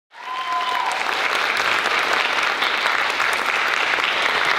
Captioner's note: audience cheers and applauds